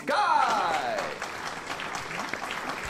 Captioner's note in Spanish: aplausos